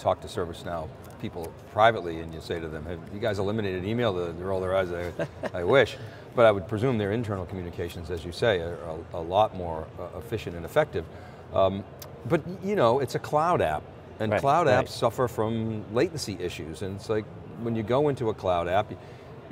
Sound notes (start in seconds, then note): 4.9 chuckles